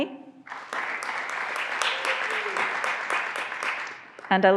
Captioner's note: graduands applauding